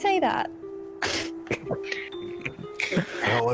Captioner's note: chuckles